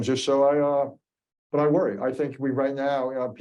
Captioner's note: none